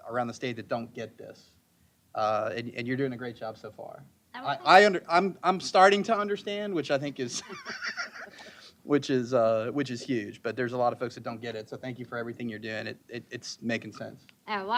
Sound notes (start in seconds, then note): 9.0 chuckling